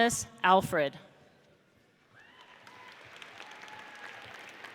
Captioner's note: audience applauds